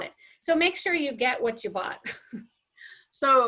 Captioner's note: chuckles